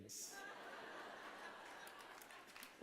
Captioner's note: laughter